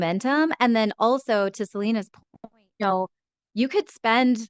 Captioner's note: speaks faintly